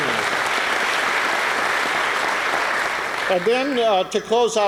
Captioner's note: applause